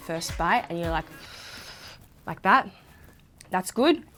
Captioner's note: inhales deeply